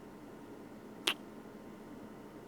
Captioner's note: kiss